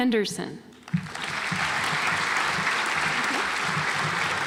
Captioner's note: audience applauds